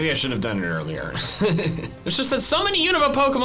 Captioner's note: laughs